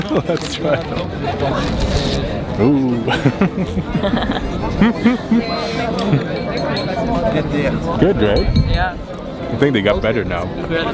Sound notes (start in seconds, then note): 3.0 giggles